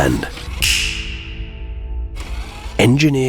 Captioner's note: finger snaps